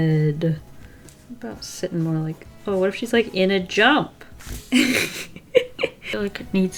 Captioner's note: laughs